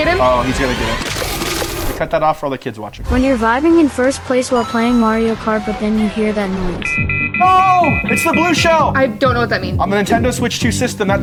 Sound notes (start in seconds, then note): 1.3 bones crunching; 7.5 alarm blaring